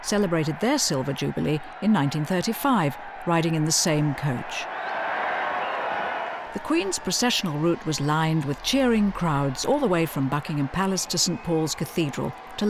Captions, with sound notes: celebrated their Silver Jubilee in 1935, riding in the same coach. (crowd cheering) The Queen's professional route was lined with cheering crowds, all the way from Buckingham Palace to St. Paul's Cathedral